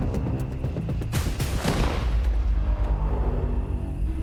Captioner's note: gun fires